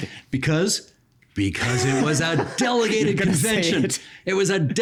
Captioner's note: laughing